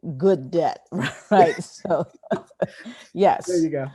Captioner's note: laughing